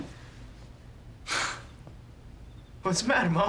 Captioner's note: laughs